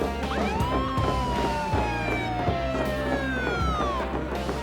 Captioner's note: siren wailing